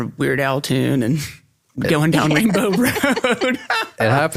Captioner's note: laugh